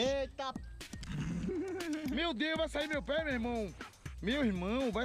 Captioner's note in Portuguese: risada